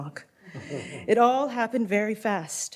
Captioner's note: light laughter